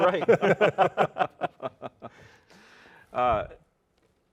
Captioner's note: all laughing